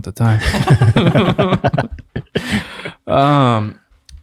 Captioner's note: friars laugh